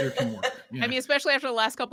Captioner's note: laughs